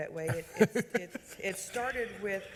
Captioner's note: laughing